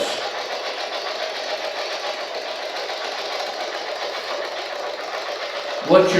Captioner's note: white Noise